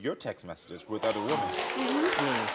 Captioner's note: audience applauding